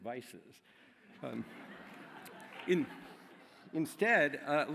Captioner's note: laughter